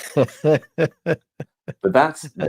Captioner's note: both laughing